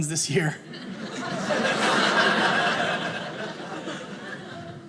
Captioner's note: audience laughing